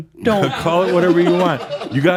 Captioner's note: more chuckles